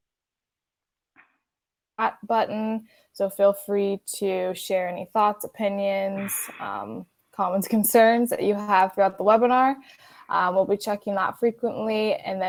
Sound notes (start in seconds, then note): 0.1 audio cuts out; 6.9 laughs